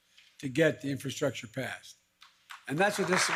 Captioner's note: applause